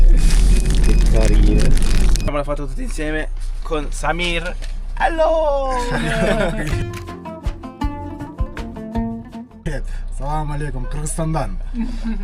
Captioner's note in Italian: risate